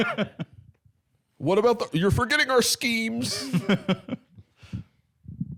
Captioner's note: laughs; laughing